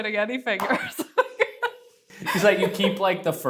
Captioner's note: laughs